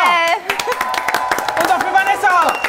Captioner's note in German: Jubel, Applaus